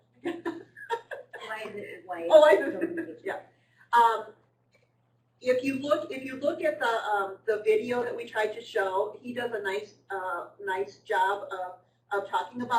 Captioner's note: quiet chatter